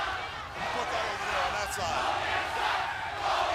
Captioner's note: crowd cheering